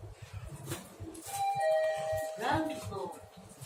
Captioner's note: chime